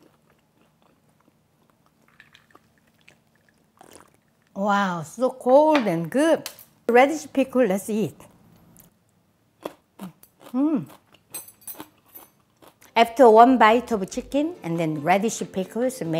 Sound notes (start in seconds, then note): 3.8 slurping noise; 9.7 crunching noise